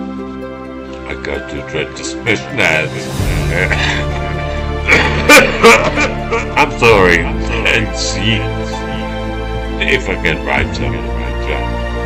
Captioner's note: coughing